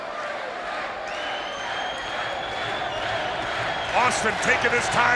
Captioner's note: crowd cheering